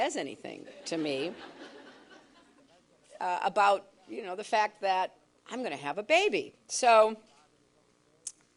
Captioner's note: laughter